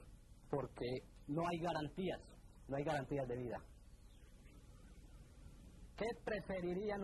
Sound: non-English narration

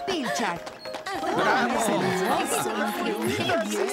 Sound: applause & Approving Chatter

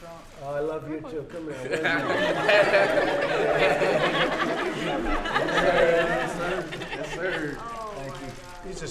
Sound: laughter

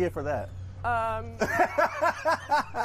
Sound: laughter

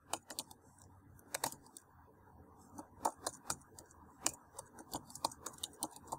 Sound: typing; and more typing

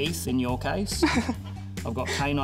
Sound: laughs

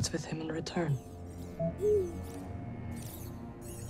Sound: boo-woop

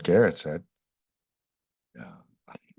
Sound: pause

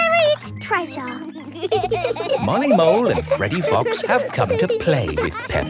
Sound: laughing

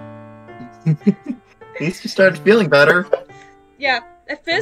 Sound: laughs

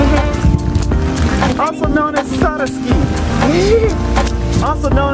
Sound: laughs

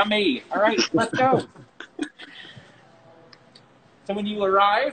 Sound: laughing

